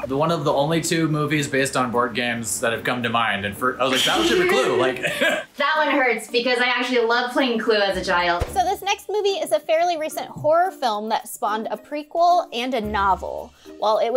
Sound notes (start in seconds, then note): 4.0 laughs